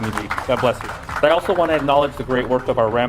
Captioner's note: attendees applaud